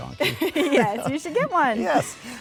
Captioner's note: laughing